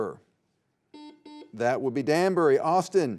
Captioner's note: buzzer beeping